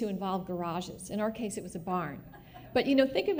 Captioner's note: laughter